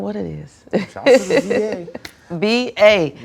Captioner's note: laughs